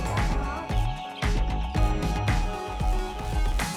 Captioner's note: chicks peep